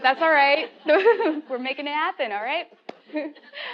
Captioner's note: laugh